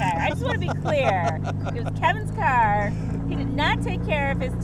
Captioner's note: laughing